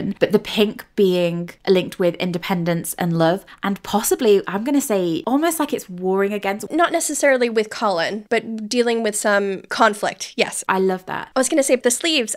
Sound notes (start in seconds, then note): none